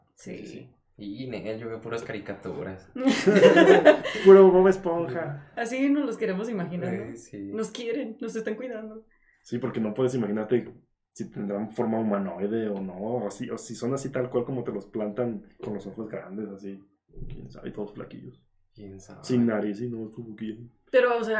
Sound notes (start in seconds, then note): 3.0 laughter